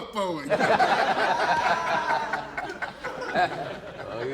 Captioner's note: laughter